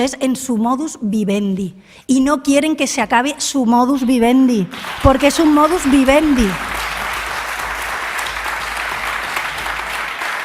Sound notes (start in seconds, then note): 4.7 applause